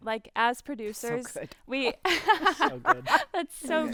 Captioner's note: group laughing